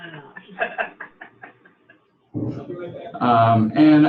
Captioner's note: laughter